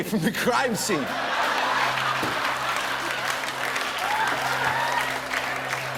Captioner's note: laughter